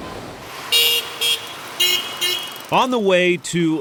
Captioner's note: honking